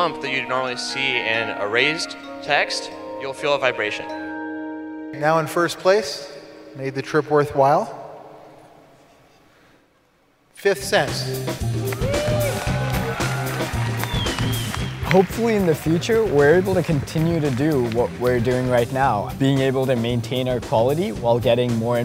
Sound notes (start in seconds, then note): 11.8 applause